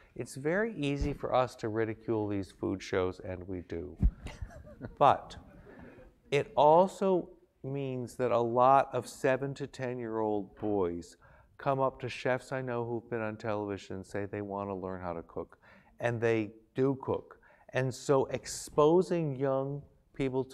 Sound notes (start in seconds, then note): 4.2 laugh